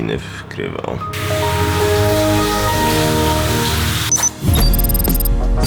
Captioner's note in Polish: dźwięk włączanego Windowsa XP